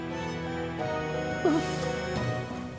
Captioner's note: startled noises